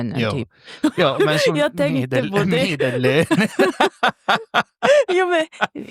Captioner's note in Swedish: skratt